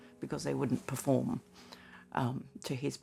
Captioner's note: none